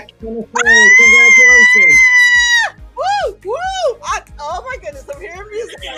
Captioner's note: screaming